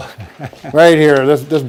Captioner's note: chuckles